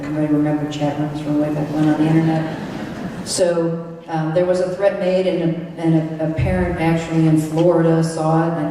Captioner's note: laughter